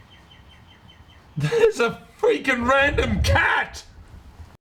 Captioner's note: laugh